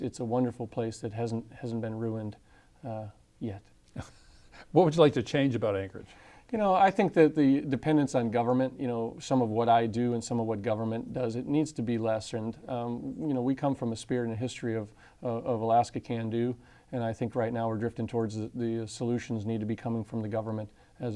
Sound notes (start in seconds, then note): 3.9 laughter